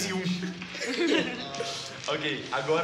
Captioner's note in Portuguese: risadas